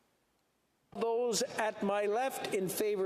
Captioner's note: speaking French